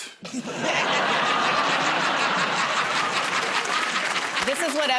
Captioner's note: laughter